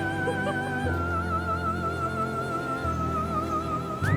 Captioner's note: Abby giggles